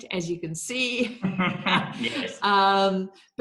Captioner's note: laughing